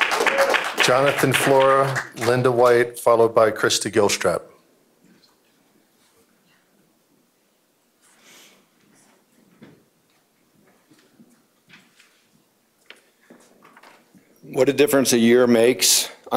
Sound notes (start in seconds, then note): 1.7 applause